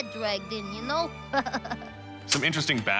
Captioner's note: chuckles